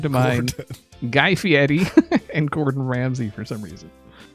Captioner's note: laughs